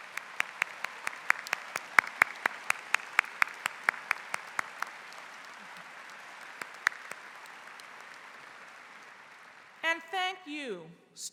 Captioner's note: applause�